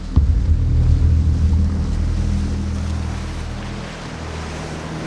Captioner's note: engine revving